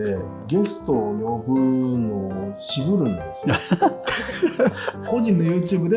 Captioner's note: laughing